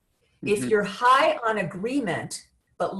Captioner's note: laughs